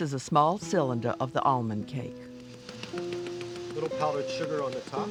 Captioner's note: voiceover